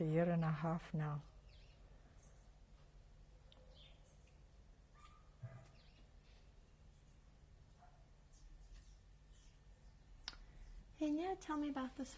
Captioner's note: pauses for 10 seconds